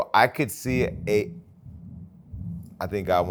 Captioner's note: thunder rolling